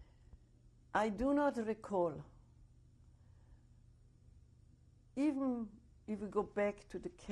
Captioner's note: pauses for 3 seconds